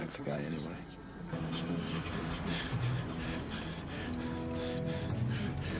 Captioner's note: heavy breathing; intense rhythmic music